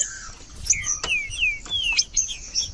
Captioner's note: trinca ferro cantando